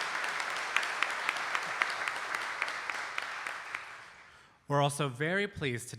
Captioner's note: audience applauding